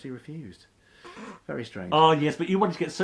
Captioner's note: laughs